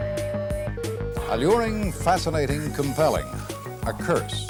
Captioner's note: digital tones and beeps